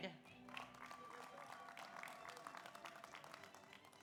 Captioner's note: audience applauds